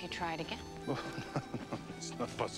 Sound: chuckles

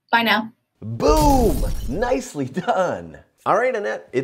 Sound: glass shattering

